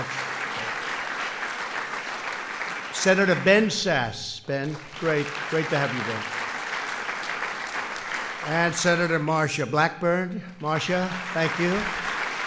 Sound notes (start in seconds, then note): 0.3 applause; 7.2 applause